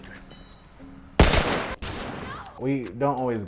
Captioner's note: gun firing